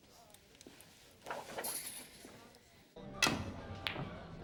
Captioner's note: curtain slides